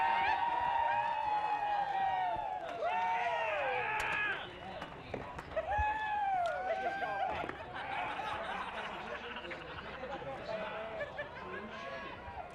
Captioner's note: cheers & applause